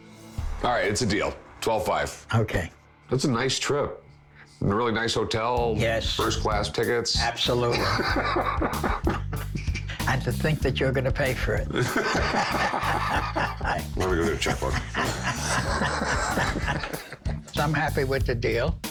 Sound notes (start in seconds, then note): 7.3 both laugh; 11.7 both laugh